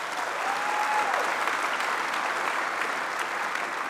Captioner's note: applause